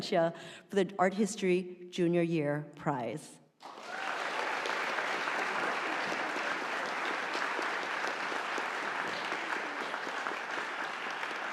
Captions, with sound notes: for the Art History Junior Year Prize. (audience applauding)